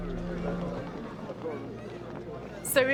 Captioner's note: low chatter